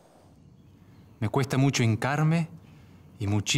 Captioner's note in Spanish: Voz de hombre